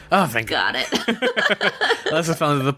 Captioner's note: laughs